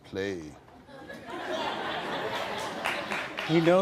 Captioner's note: audience laughing